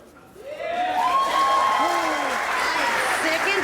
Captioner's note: cheering